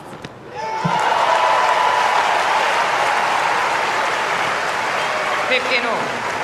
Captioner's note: applause